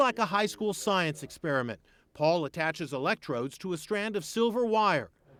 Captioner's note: none